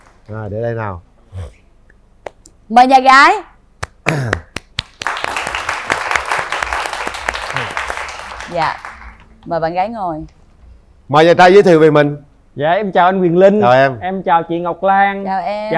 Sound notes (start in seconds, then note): 4.0 applause